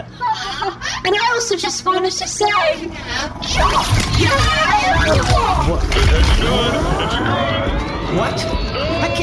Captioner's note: screaming